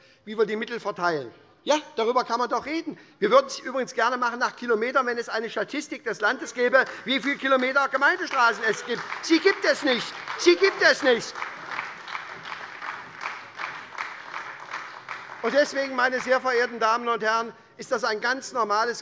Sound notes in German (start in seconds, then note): 11.1 Beifall bei der SPD